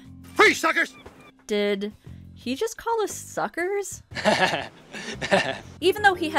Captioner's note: Daryl laughs like a wingnut